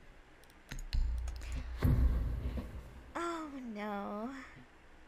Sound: gasp

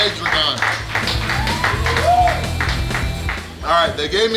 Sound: clapping & Cheering

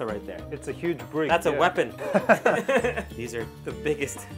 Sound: laughing

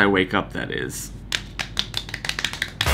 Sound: slap slap slap

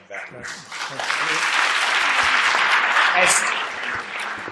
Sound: applause

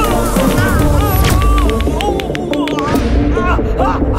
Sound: groans

